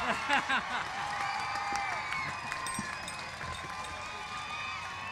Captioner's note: cheers and applause